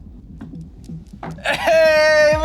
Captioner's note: paws tapping